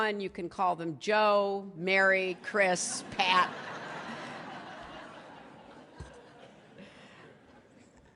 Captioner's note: laughter